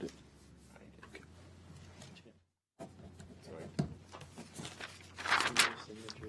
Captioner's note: speaker talking away from mic